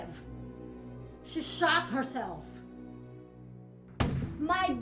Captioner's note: gun firing